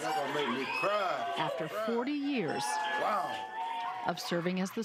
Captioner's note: cheers